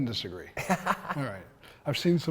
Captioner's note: laughs